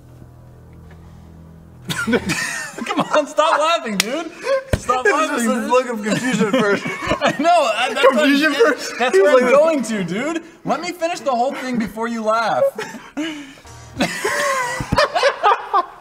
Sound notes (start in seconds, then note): 1.8 all three laugh; 7.1 wheeze; 13.9 they can't even stop laughing